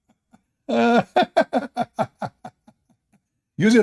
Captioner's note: Ketawa